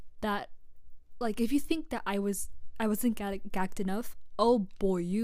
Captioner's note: stammers